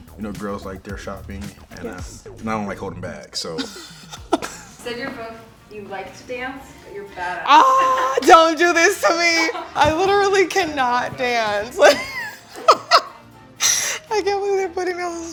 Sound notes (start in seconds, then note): 12.5 chuckles